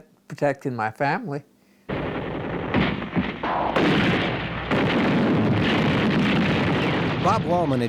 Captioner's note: explosions